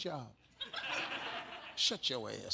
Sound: audience laughs

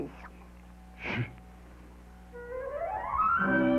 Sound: sigh

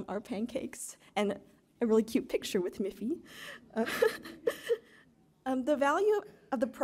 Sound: chuckles

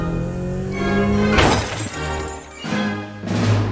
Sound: crash

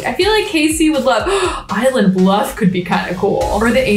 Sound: gasps

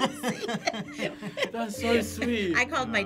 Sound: both laugh

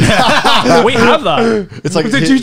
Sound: everyone laughs

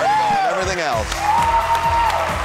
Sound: cheering

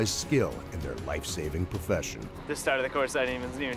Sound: voiceover

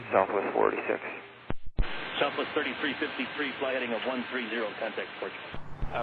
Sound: air traffic chatter

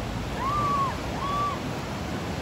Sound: girls screaming

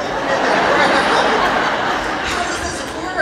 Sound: laughing

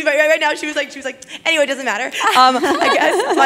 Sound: laugh

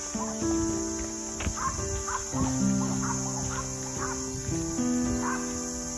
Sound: dog barking

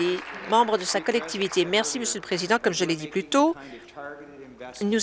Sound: applause

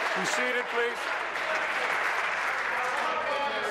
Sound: applause

